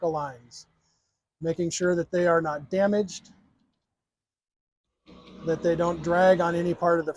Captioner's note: machine engine running